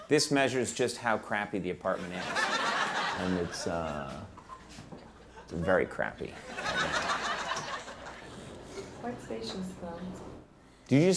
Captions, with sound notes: this measures just how crappy the apartment is. (audience laughing) and it's very crappy. (audience laughing) Quite spacious though.